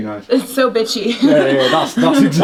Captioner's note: laughs